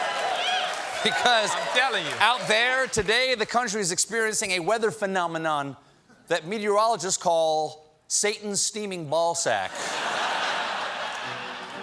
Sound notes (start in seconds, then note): 0.0 applause